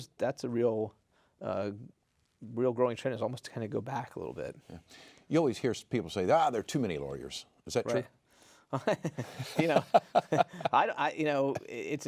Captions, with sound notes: That's the real growing trend is almost to kinda go back a little bit. - You always hear people say there are too many lawyers. Is that true? (chuckling)